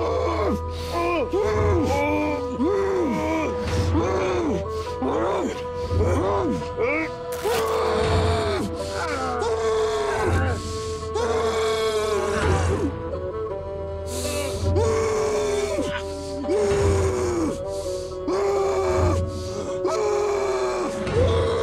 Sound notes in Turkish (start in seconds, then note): 0.2 Acı çekerek bağırma; 8.5 Acı çekerek bağırma, nefes alma